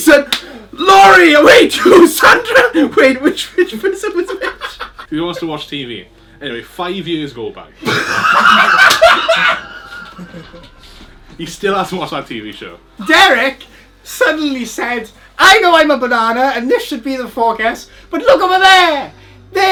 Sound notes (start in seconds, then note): 7.8 laughs